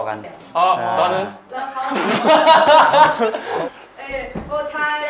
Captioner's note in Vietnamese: Cười